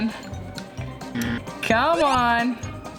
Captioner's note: buzzer sounding